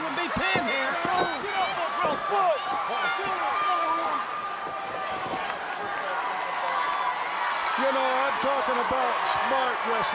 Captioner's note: crowd cheering